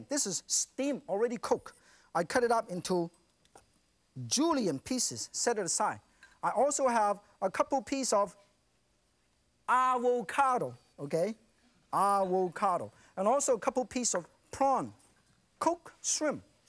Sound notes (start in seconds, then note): none